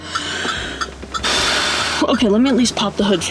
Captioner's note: sighs